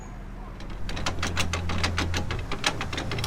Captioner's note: lock paddles winding up